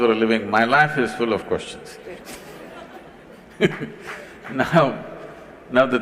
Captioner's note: laughter/Applause; 笑聲/掌聲